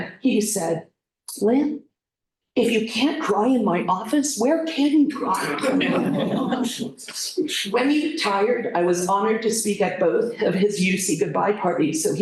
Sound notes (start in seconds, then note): 5.4 laughter